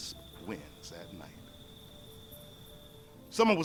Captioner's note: birds chirping